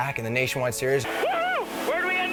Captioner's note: cheers